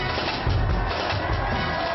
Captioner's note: applause